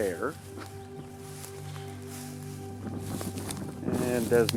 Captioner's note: speaker laughs